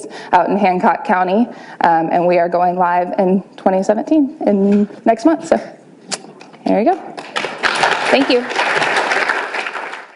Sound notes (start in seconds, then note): 7.2 applause